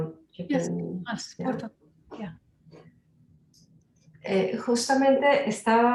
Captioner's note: speaking in Spanish; speaking Spanish